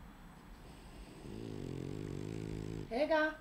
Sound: dog snoring

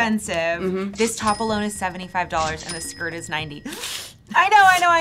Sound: inhales

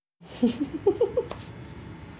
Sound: laughing

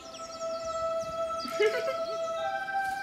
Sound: giggling

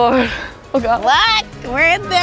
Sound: laughing

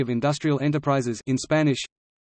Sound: in Italian

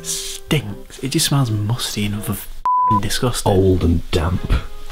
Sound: beep

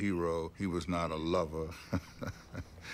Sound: chuckling

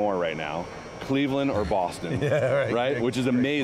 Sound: laughter

